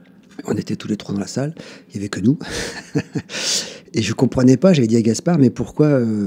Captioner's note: laughs